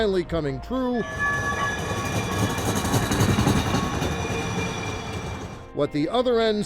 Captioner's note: streetcar whistles past